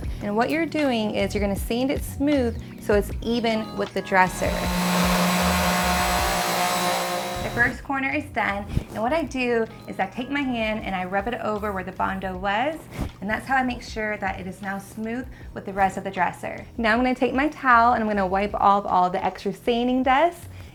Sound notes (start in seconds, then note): 4.2 whirring